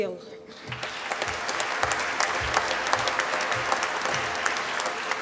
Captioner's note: applause